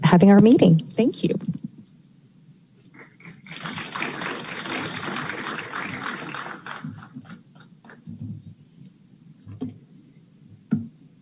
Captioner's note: applause